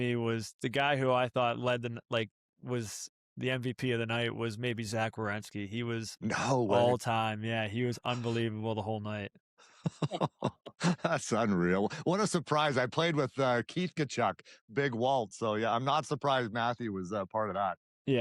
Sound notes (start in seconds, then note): 9.8 laughter